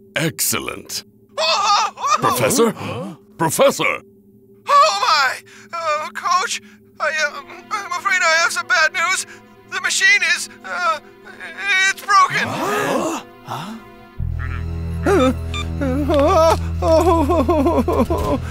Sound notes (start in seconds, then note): 13.4 team gasps; 15.0 Professors whimpers